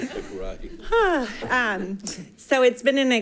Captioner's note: sighing